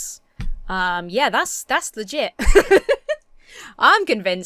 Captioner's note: laughs